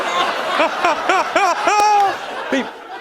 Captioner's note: laughter continues; laughs